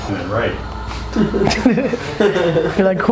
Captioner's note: laughing